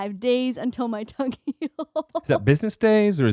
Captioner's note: laughing